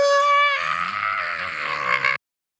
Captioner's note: gurgled screaming